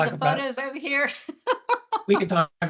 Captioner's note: laughs